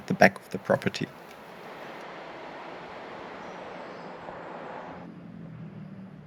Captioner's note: wind howling